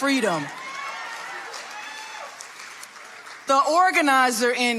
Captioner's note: audience applauding